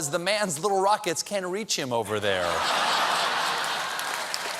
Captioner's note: laughter; applause